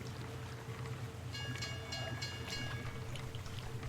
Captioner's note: boat bell